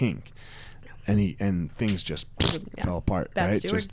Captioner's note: blows raspberry